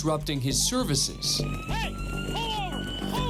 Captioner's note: siren